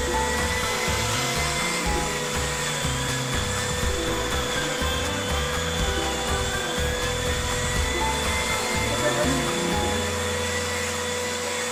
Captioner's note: vacuum sounds